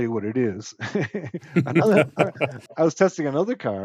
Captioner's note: both laugh